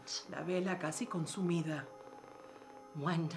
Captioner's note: speaking in foreign language